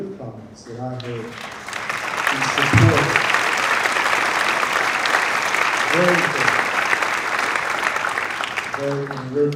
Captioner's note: applause